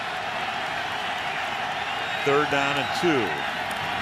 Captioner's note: cheering